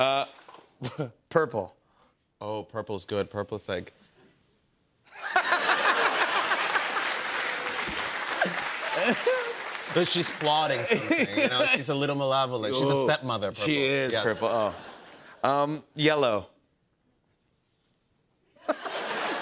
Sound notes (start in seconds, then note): 5.1 laughter; 5.7 applause; 16.8 laughter